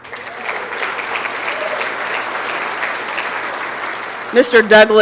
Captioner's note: applause and Cheering